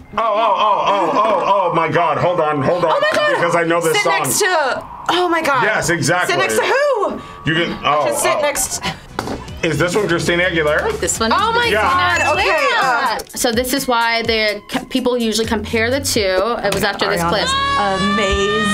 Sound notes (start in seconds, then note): 12.1 dinging sound